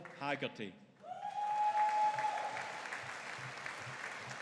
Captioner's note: audience cheering